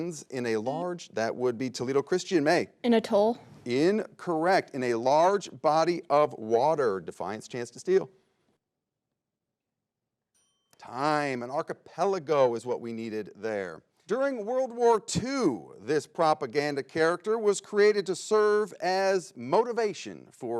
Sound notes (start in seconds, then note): 10.3 bell rings